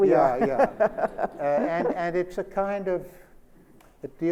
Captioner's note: Sonia laughs